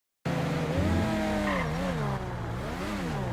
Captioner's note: supercar engine sound